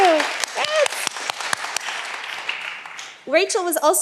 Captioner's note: all applauding